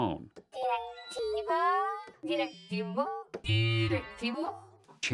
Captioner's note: modulating